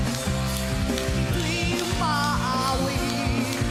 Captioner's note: clapping to the beat